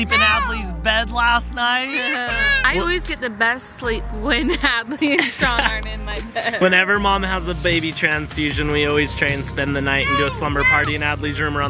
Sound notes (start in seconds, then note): 4.8 laughs